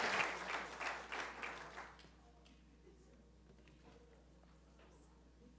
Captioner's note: applause